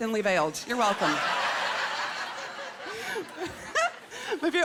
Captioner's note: laughing